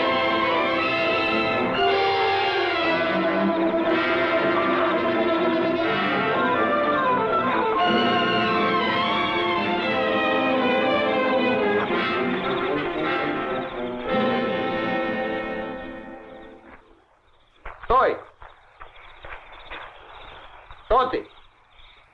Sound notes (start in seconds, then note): 11.2 footsteps pattering; 17.6 soldier speaking in Russian